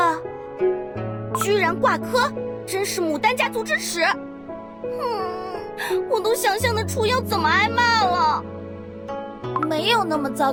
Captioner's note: sob sob sob